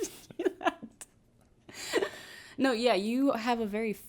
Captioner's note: laughs